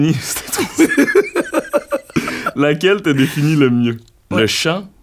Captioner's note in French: rires